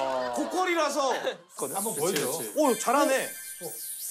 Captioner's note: high quality cicada sounds